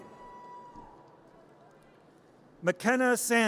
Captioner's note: audience cheers